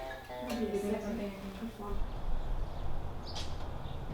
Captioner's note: guitar playing softly; indistinct chatter; birds chirping